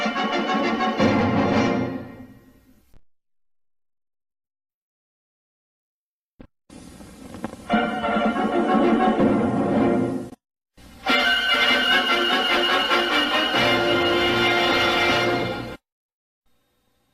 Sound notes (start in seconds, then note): 1.8 silence; 7.6 retro fanfares resuming